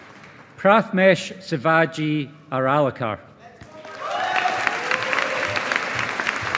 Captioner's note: audience applauding